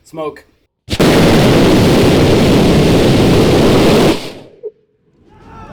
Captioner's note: engine firing